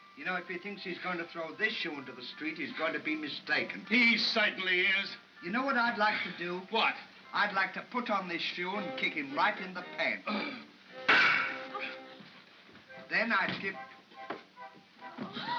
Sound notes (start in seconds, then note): 11.1 crack; 15.2 soft thump